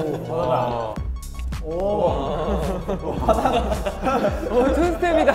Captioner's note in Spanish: Jajaja